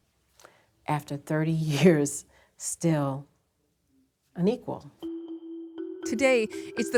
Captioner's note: scoffing